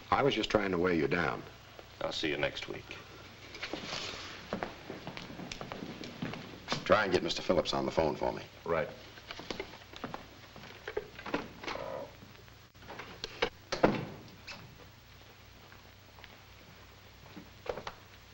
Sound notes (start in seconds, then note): 13.7 door thuds shut